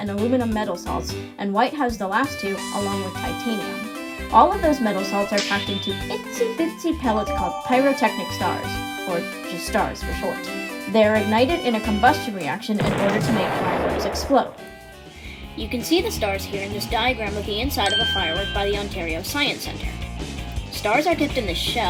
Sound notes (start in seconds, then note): 12.8 kaboom!!